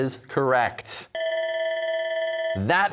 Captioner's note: bell ringing